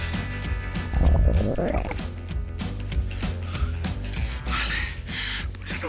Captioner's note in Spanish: Rugido de las tripas